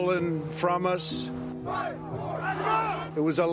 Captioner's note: crowd